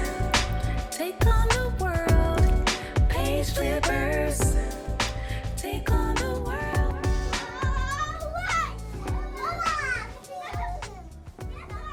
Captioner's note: theme song fades out to sound of kids talking, running around